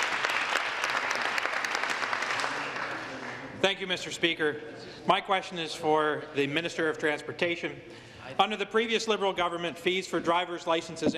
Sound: applause

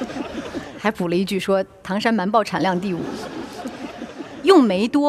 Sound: laughter

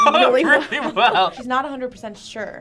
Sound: laughs

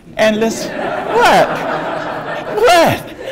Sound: audience laughs

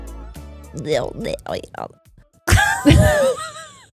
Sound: jabbering; both laughing

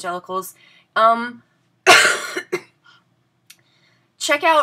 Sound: coughs

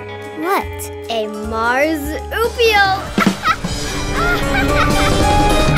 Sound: laughs

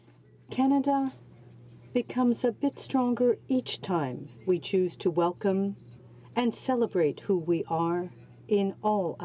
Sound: speaking French

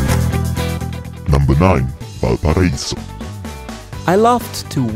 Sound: male Voice

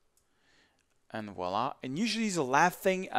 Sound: speaks in foreign language

